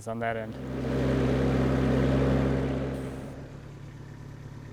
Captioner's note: engine rumbles